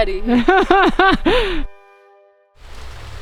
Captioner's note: laughs